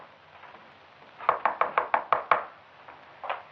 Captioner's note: Number One knocking